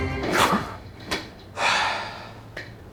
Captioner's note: exhausted huff